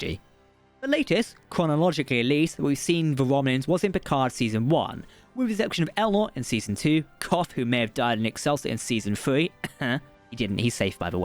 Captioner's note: cough